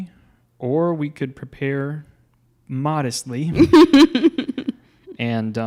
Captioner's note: laughing